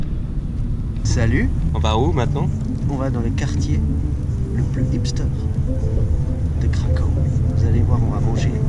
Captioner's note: French